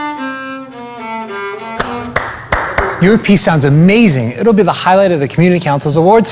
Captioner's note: clapping